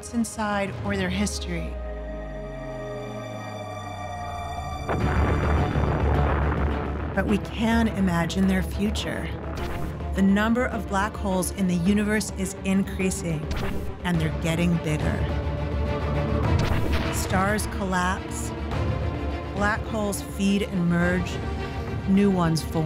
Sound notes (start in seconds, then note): 5.4 explosion roars